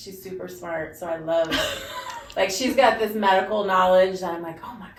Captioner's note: laughs